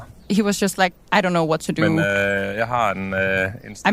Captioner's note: speaking Danish